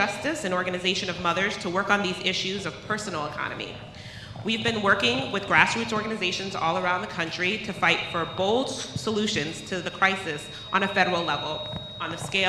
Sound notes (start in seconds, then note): none